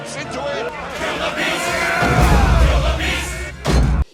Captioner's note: mob chants 'kill the beast'